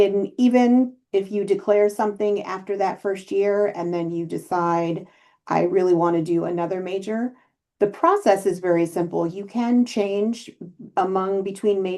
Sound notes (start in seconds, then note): none